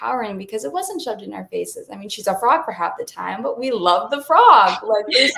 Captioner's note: laughing